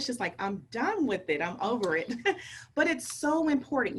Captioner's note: chuckles